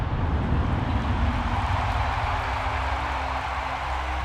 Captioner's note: cheers and applause